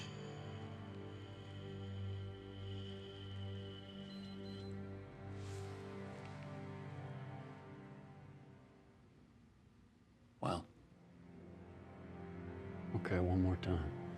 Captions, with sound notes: (breathalyzer hissing) (breathalyzer beeps) - Well? - Okay, one more time.